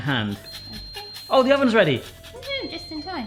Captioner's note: beeping